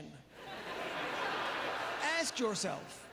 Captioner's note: audience laughter